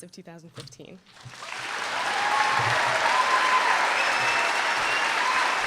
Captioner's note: applause